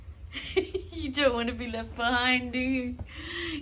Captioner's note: giggles